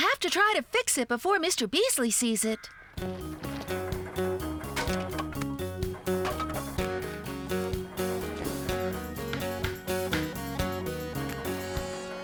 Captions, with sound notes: WE'LL HAVE TO TRY TO FIX IT BEFORE MR. BEASLEY SEES IT. ( Wood Clanking ) ( Tap! Tap! Tap! )